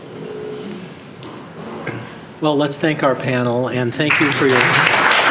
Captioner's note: applause